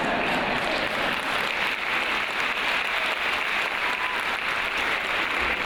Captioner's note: audience applauds